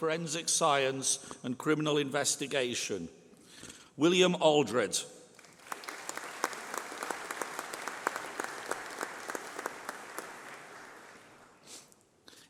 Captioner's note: applause